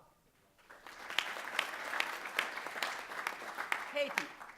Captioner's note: applause